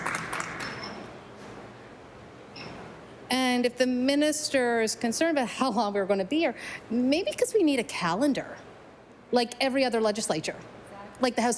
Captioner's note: some Applause